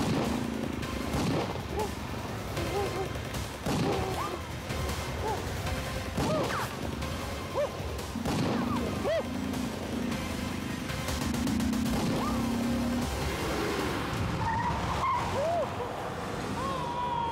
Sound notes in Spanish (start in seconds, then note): 9.9 sonido de ráfagas